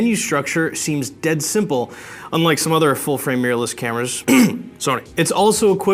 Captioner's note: clear throat